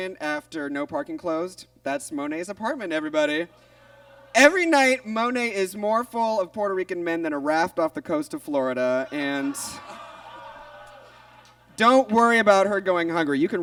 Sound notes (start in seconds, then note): 3.6 audience groans; 9.1 audience groans